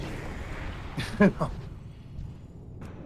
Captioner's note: laughs